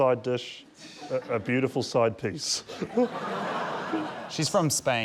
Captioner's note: laughter